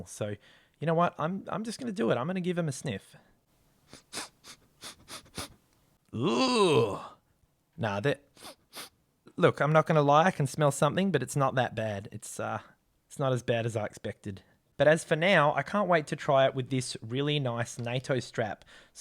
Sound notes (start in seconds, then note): 3.8 sniffing; 8.4 sniffing